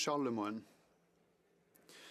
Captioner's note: speaking French